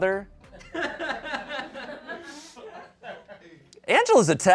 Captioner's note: people laugh